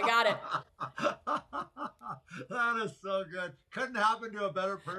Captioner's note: laughs